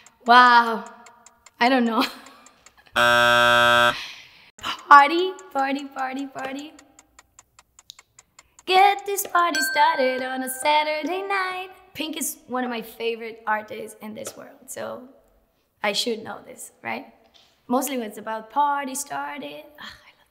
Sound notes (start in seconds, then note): 2.9 buzzer